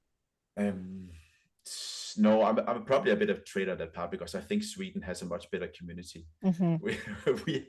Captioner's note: laughs